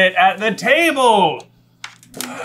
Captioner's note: grooooooooans